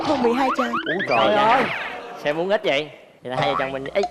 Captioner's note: sarcasm